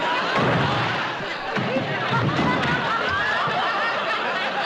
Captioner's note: thump